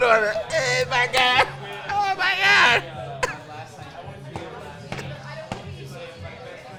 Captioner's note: stomping her feet